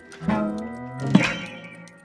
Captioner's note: boing